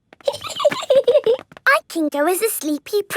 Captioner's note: giggling